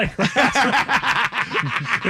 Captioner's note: laughing